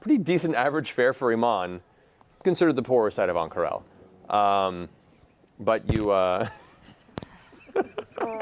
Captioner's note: laughs